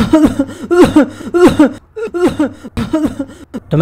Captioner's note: cough